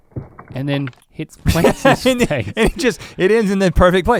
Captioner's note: Rhett laughs